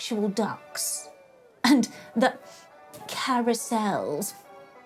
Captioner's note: scoffs